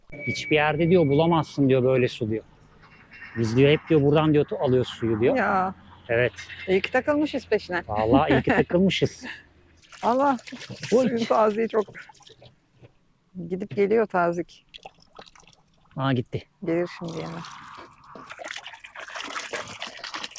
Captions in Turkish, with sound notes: Hiçbir yerde bulamazsın böyle su diyor. Biz hep buradan alıyoruz suyu diyor. Ya iyi ki takılmışız peşine. Vallahi iyi ki takılmışız. [kahkaha] Allah suyun taziği çok gidip geliyor tazik. Aa gitti gelir şimdi yine